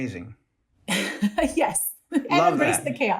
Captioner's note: laughter